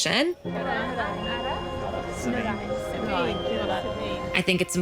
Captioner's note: people speak in te reo